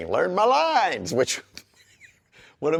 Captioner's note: laughs